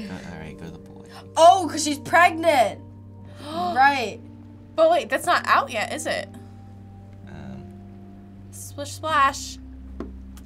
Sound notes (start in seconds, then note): 3.3 gasps